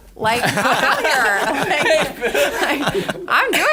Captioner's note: laughter